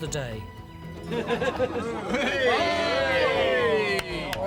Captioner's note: team cheering